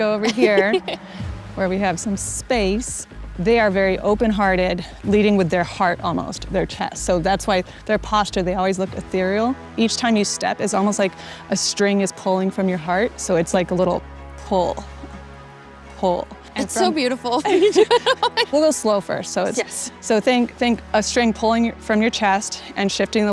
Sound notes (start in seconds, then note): 16.6 laughing